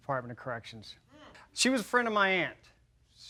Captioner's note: laughs